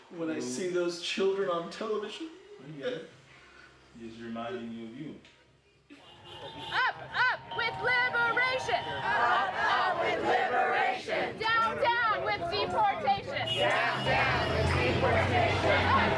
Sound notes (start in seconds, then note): 9.4 crowd; 13.9 crowd